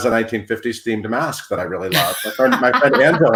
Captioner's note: laughs